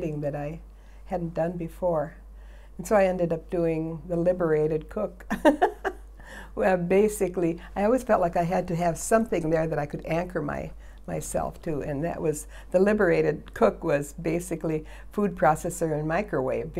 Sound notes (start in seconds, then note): 5.4 laughs